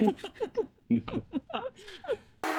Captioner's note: laughter